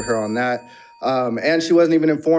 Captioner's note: bell dings